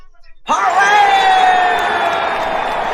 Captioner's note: all cheering